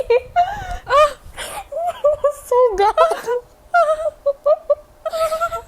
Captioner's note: hyperventilates